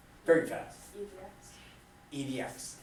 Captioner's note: voiceover